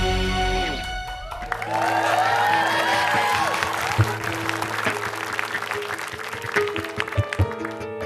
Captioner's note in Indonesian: Tepukan penonton